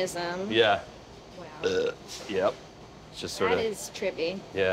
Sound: burps

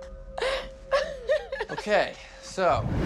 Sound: laughing

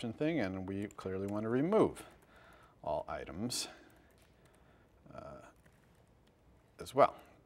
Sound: pause

